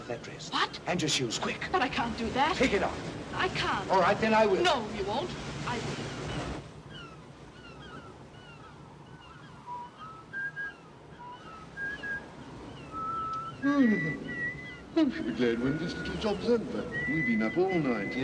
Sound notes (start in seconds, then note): 9.1 Harry whistles; 13.7 yawns